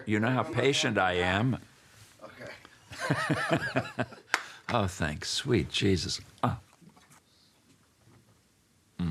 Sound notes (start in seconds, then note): 2.9 laughs